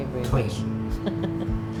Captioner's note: laughs